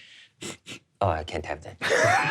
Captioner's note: sniffing; all laughing